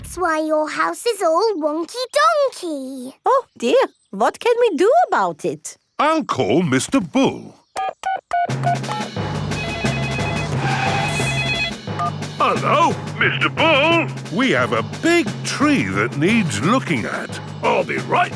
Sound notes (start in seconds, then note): 9.4 beeping; 9.4 phone ringing